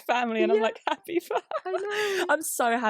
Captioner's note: laughs